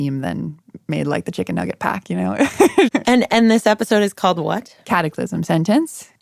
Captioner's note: laughs